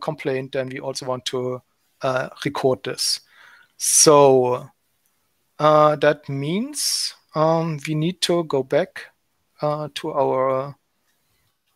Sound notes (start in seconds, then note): none